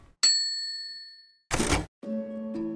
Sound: bell ringing; gentle music

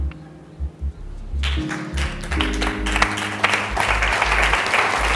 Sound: audience applauding

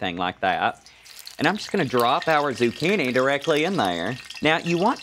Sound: crackling

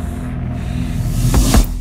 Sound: punching sound

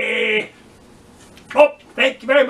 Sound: speaks

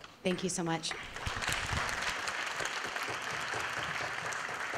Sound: audience clapping

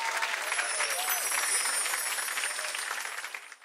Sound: bells chiming

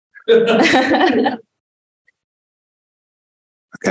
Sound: laughter

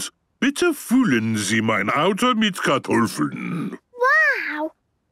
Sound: speaking German

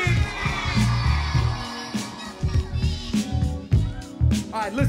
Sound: audience screaming and cheering

